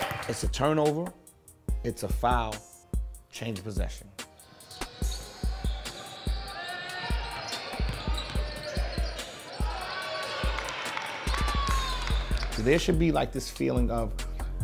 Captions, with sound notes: It's a turnover, it's a foul, change and possession. (slow music) (overlapping chattering) (audience applauds) There should be this feeling of,